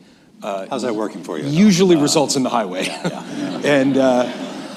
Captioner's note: laughter